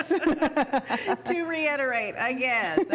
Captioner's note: laugh